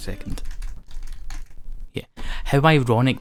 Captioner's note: furious keyboard clicking